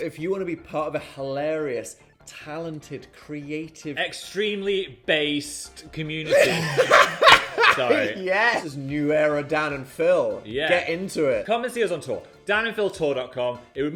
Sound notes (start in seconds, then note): 6.2 laughing; 6.9 palms clapping